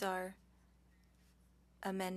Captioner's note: speaking French